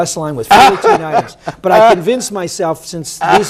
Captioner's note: laughter